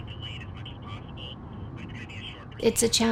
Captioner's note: person speaking over cell phone speaker